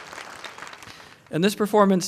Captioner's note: applause